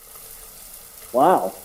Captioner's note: water splashing